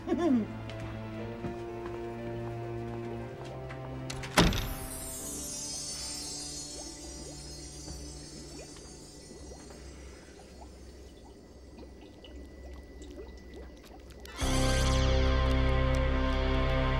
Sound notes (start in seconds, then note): 0.0 giggling; 3.2 chemicals bubbling; 13.8 eerie music